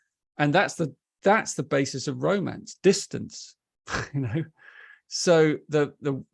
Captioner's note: chuckles